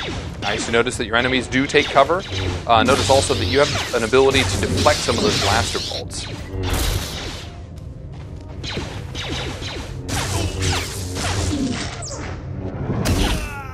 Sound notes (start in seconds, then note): 0.0 blaster fire, lightsaber movement; 8.6 lightsaber strikes; 8.6 blaster fire